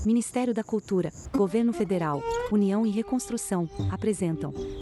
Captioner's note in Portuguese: Pássaros